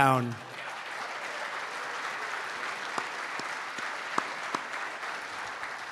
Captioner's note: applause